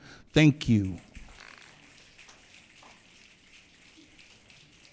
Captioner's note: audience clicking